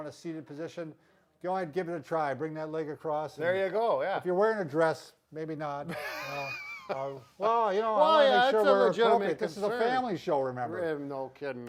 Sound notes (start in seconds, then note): 5.9 giggling